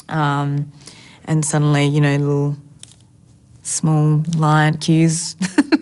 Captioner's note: laughs